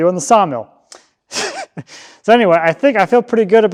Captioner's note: chuckles